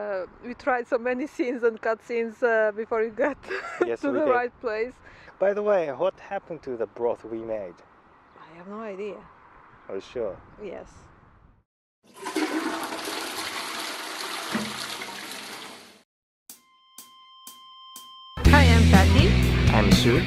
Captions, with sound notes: We tried so many scenes and cut-scenes before we got to the right place! By the way, what happened to the broth we made?! I have no idea!! Are you sure! Yes! (*FLUSHING TOILET*)